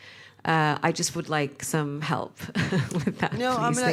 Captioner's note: chuckles